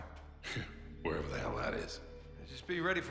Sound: laughing

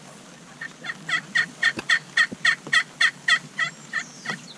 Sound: turkey calls

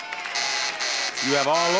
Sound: buzzer sounds

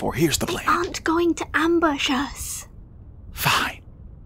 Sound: whisper

